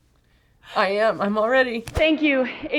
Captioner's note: choked up